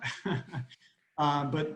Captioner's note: laughs